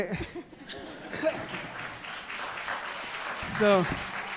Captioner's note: laughter, applause